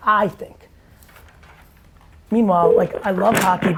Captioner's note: phone rings